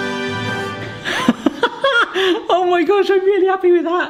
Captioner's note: dramatic music; laughing